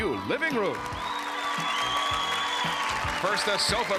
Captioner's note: applause and cheering